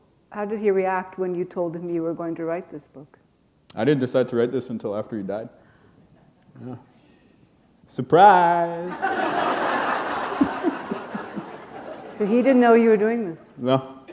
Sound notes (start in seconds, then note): 6.7 pause; 8.9 laughter